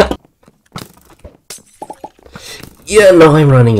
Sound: skywars noises I guess

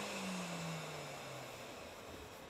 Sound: machine noise dies away

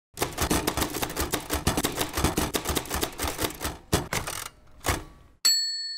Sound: typing sound

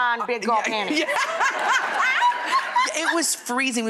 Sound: laughing

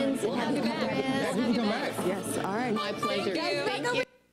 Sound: murmuring

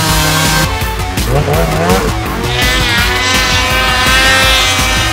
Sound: snowmobile engine

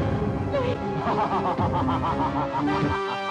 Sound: laughs

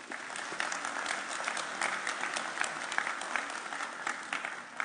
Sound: audience applauding

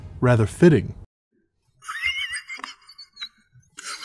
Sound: breathy laugh

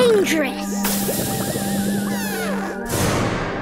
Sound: fizzling noise

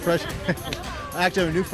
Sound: laughs

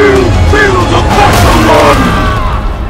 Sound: screaming in pain

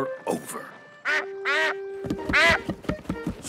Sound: mrs duck quacks

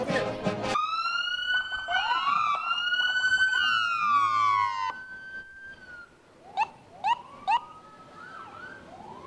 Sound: police sirens

